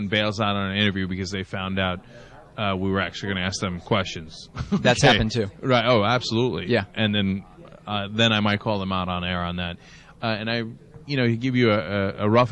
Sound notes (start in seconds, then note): 4.6 laughs